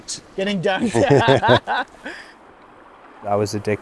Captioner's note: laugh